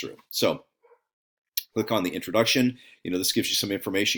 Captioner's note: dog barking